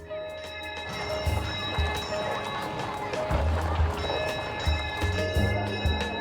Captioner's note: bell tolling, children chattering